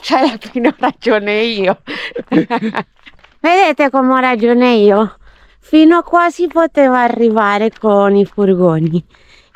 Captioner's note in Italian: risate